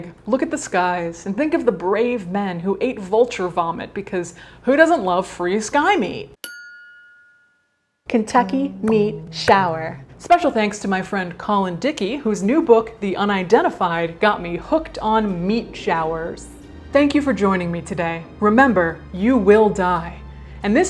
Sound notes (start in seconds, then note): 6.4 bell ringing